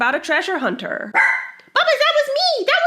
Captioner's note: Butters barks